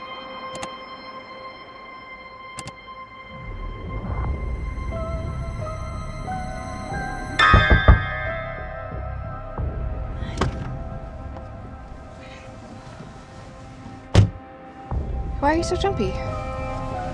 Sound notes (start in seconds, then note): 2.6 dimmer switch off; 3.8 suspenseful music; 7.5 knocks on glass; 10.2 car door opens